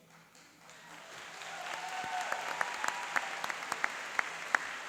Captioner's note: applauding and cheering